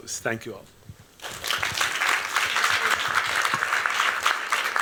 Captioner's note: applause